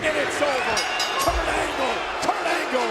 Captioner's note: bell dings